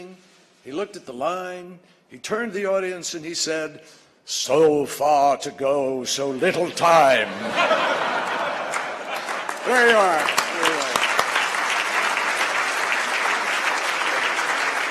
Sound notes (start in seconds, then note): 6.5 laughter; 9.7 applause